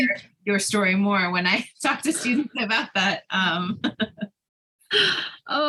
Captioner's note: chuckles